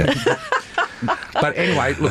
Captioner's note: laughter